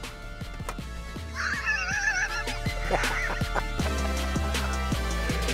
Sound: laughs

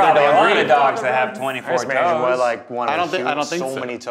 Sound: everyone chattering

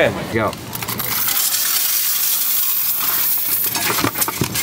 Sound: coins rattling

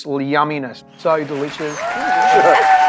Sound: crowd cheering

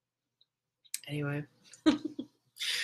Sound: chuckles

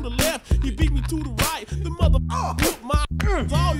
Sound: groans

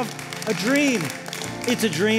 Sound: applause

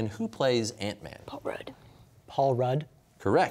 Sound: quietly

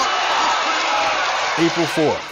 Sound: crowd cheering

